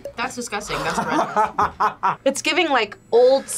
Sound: laughs

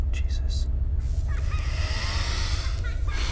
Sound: electricity crackles; ghostly laughter; gasps; sharp exhale

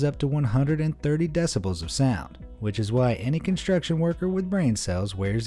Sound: none

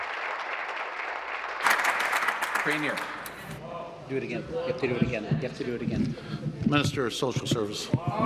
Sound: applause

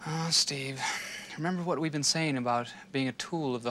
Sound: sighs

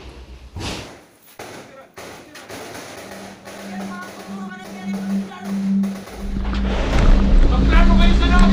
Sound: gunshots fired

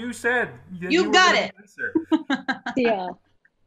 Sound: laughs

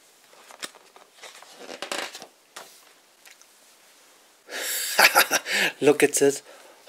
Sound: flip sound

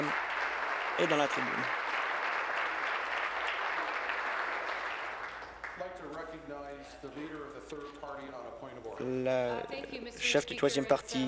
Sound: applause

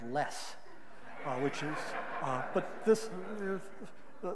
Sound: audience laughing

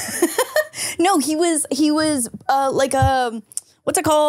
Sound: laughs

